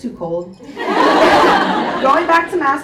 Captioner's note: audience laughs